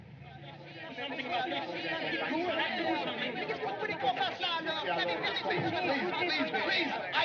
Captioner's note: shouting In French